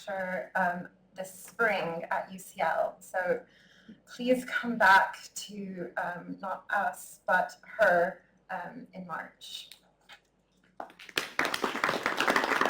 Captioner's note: clapping